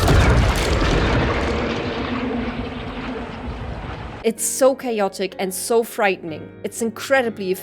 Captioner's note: chaotic impact sounds